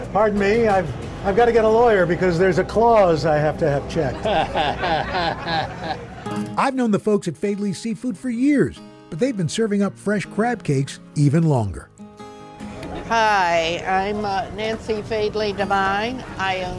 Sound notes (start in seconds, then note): 4.0 chuckles